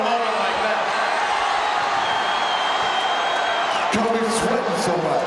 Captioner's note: audience cheering